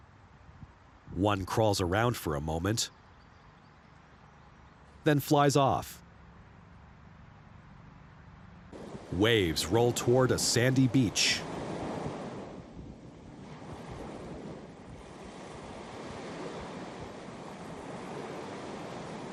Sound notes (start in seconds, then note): 1.9 birds chirping; 9.1 waves crashing